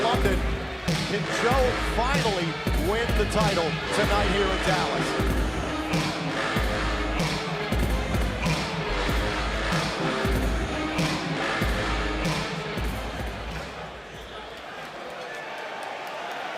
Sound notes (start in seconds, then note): 5.2 heartbeat thumping